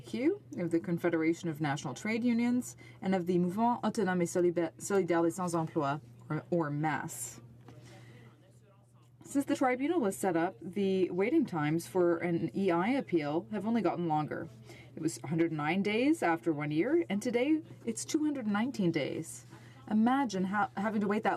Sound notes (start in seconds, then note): 10.8 speaking French